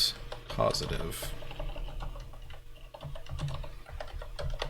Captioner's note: keyboard keys clanking